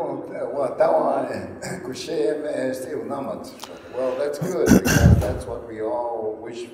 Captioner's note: speaking native language